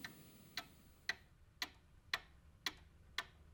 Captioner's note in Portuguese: relógio tique-taque